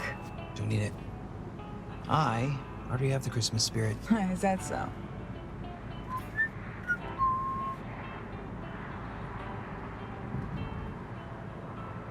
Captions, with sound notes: - Don't need it. I already have the Christmas spirit. - Is that so? (upbeat music) (William whistling)